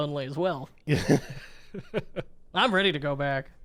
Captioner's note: laughing